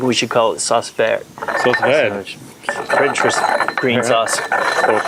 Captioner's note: foreign language